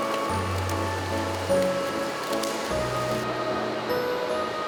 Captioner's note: flatter flapping